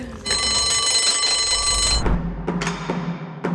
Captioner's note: bell ringing; smooth music